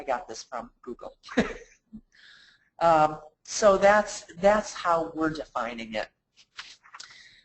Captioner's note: laughs